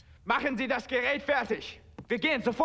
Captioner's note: speaking german